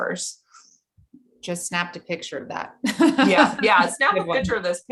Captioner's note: chuckles